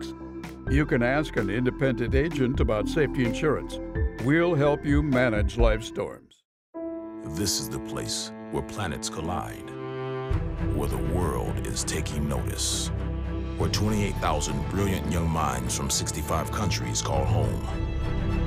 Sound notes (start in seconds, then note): none